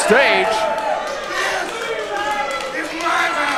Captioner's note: crowd cheering